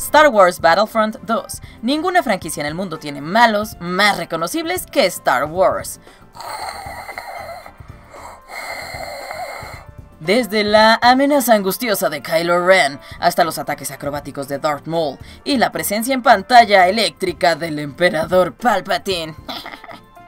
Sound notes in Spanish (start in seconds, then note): 6.1 Respiración de Darth Vader